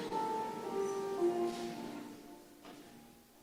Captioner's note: none